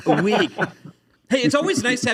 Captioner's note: laughter